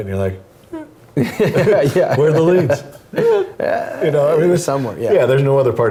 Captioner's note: laughs